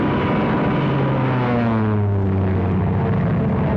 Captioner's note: plane rumbling